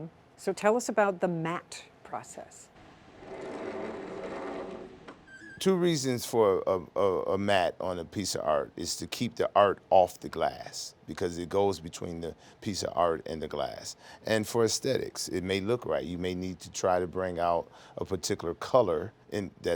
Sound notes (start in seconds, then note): 3.2 machine swooshing